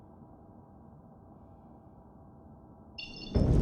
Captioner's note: wind blowing